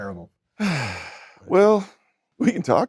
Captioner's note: Brendan sighing